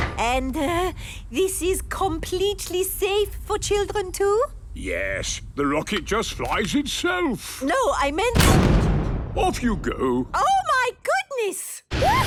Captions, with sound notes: And, er... this is completely safe for children too? - Yes. The rocket just flies itself. - No, I meant-- - (blasts off) - Off, you go! - Oh, my goodness!